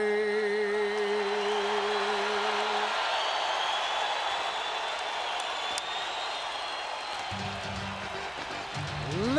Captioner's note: crowd cheering